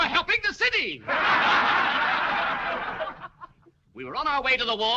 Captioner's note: جمهور يضحك